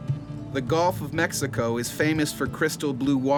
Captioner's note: voiceover